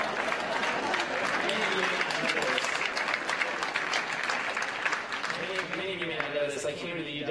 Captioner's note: laughter